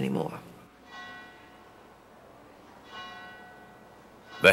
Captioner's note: bell rings